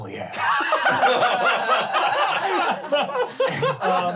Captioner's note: laughing